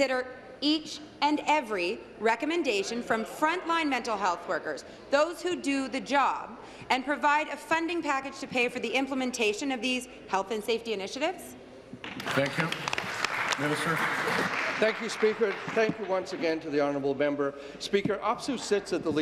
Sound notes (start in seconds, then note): 15.4 applause